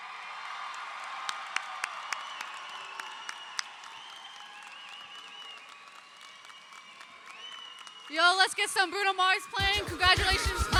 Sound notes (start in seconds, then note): 0.0 audience applauds; 0.0 audience cheers